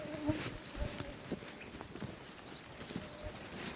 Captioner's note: foot steps